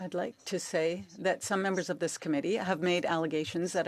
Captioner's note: speaking French